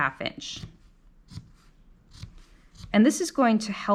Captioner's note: scissors snipping